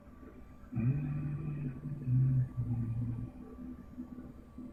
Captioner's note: humming